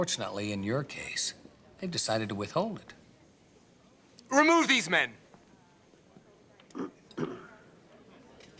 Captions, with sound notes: But unfortunately, in your case, they've decided to withhold it. Remove these men! (man clears throat)